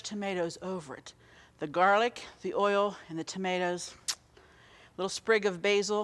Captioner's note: lips smack